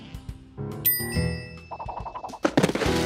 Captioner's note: bell dings